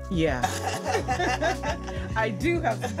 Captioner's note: laughing